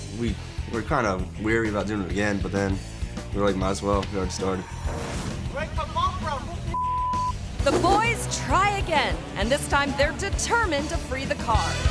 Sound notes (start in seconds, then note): 6.7 beep